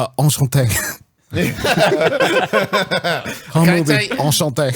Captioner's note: laughs